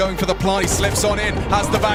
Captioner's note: gun firing